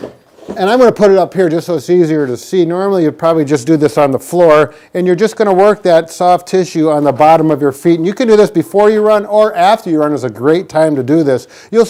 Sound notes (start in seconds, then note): none